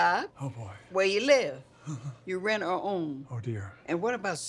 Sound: chuckles nervously

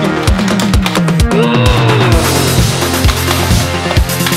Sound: growling

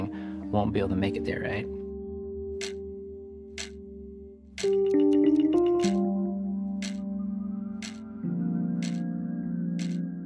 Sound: ticking

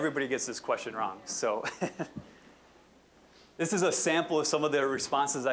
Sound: chuckling

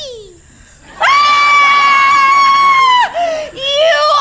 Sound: screams

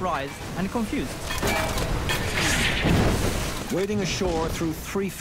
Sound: cannon shots exploding; metal clanging from gunfire

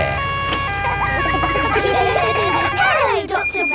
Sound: kids laughing

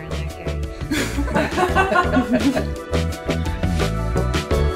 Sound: everyone laughing

